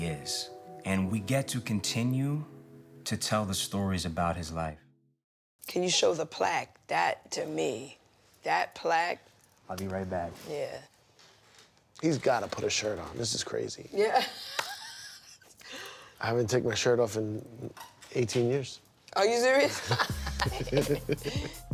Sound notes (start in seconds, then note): 14.1 laughs; 19.6 laughter